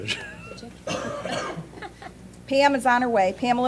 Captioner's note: laughter